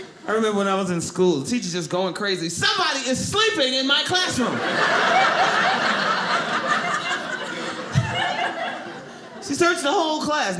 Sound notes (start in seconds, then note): 4.3 audience laughing